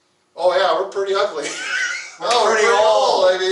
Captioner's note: laughing